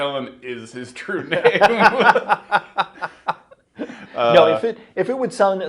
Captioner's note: laughing